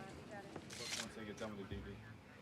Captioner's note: camera shutter clicking